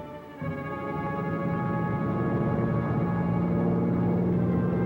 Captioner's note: plane droning